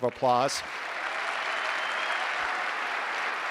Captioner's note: clapping